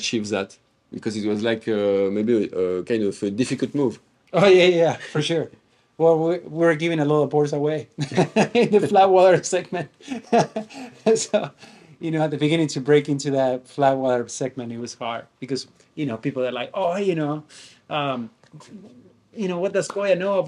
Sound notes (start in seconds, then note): 9.9 laugh